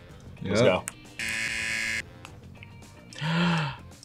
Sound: buzzer rings; gasps

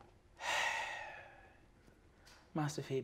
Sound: sighs

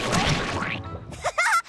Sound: laughing

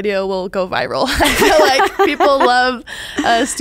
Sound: laughs

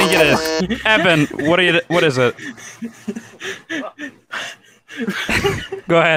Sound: buzzes; quietly laughing; still laughing

